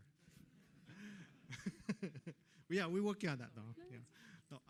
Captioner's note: laughter